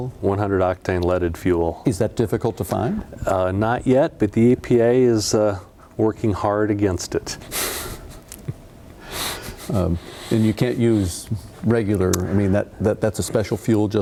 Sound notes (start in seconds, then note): 9.3 laughing